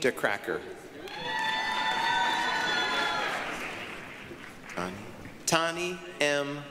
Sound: applause, cheering

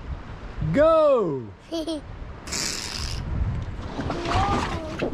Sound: laughs

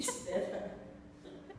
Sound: laughs

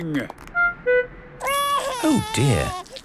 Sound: crying

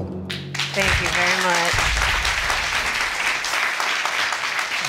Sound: audience applauding

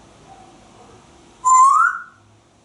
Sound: whistling

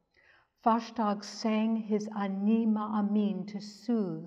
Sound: speaks in Hebrew

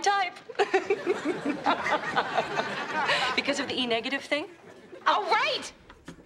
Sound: laughs

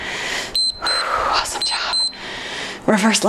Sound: timer beeps

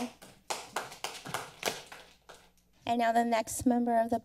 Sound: audience applauding

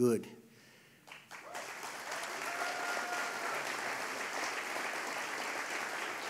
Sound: applause

